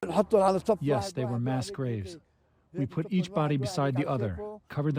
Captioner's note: through translator